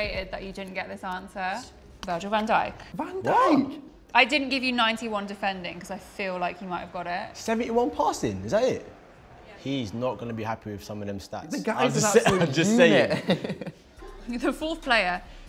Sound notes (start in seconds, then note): 13.3 chuckle